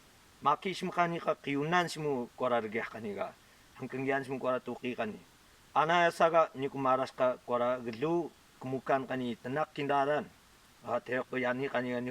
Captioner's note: prayer being spoken in local dialect